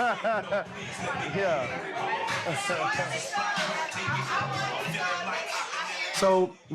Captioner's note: upbeat music; customers talking